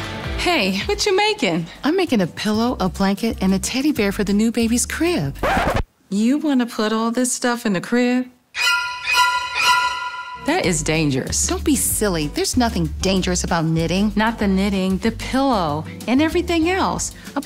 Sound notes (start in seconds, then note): 5.3 record scratch; 8.5 dramatic music